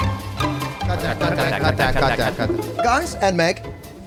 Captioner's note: echo